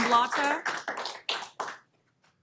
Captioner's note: applause